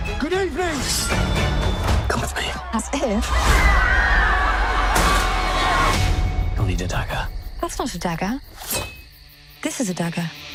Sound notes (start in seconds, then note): 4.3 crowd screams